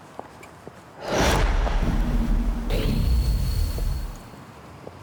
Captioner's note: wind whooshes